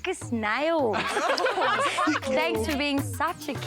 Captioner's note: people laughing